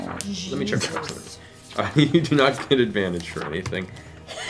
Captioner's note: laughs